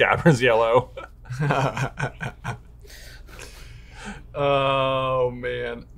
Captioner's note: laughs